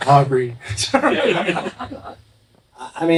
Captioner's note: laughing